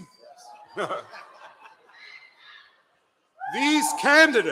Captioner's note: laughter